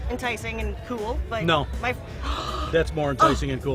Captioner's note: gasps